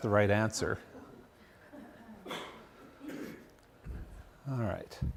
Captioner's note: laughter